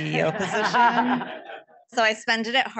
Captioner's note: audience laughing